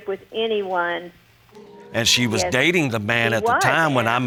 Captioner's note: audience groans